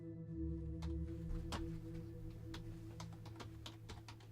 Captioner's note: typing